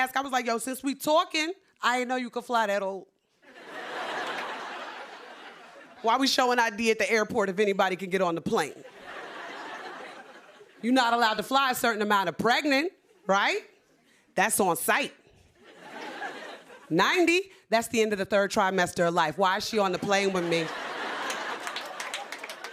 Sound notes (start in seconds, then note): 3.4 laughter